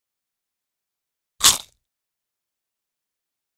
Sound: biting sound

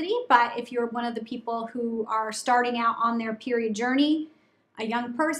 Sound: none

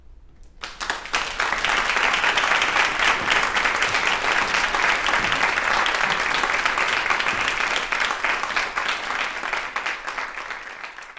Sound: applause

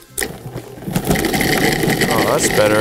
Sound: machine whirring

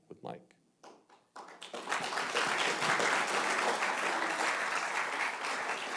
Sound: audience applauding

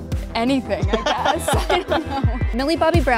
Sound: Gaten laughs

